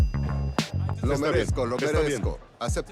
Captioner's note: laughs